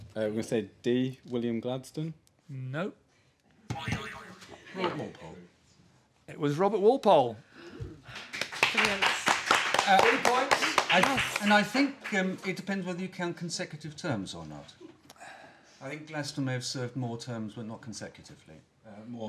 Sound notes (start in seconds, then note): 3.4 boing; 8.0 applause